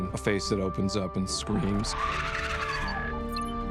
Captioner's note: shrieks